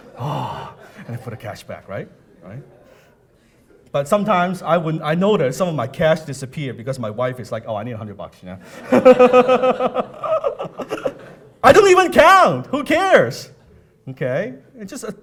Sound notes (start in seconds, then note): 8.7 laughing